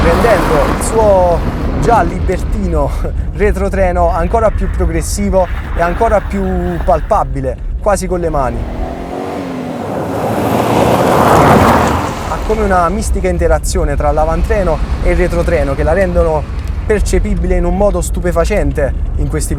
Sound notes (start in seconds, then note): 8.0 high engine rpm